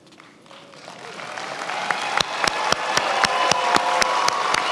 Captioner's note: attendees applauding